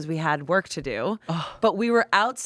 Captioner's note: sighs